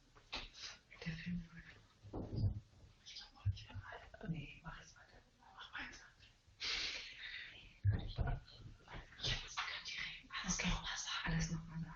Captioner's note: voices in the background